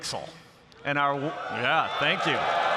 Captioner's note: applause